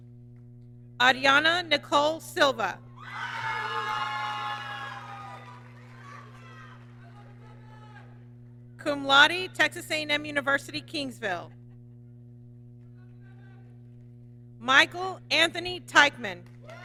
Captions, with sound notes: Ariana Nicole Silva, (applause) Cum Laude, Texas A&M University, Kingsville. Michael Anthony Taichman,